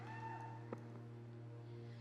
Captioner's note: cheers and applause